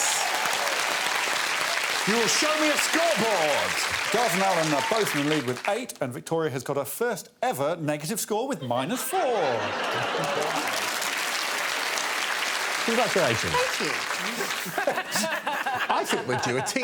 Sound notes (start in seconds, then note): 11.4 audience applauding